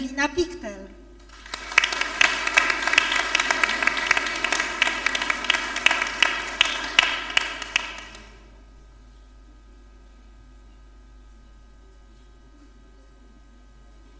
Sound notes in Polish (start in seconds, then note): 1.2 oklaski